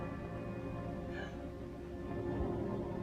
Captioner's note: gasps